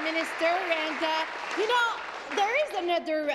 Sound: applause

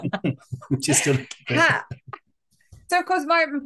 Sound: laughing

